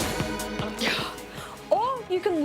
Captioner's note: exhales